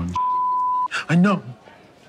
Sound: beeping

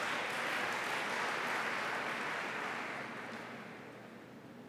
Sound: applause

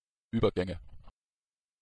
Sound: fast Pronunciation

